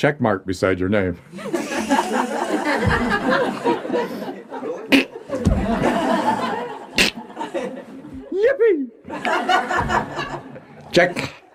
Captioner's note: laughter